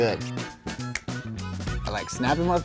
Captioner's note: upbeat music; fingers snap